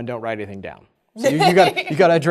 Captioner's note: laughing